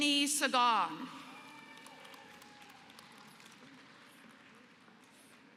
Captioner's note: applause